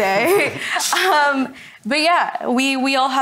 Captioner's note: all laugh